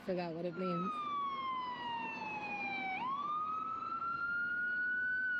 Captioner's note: sirens wailing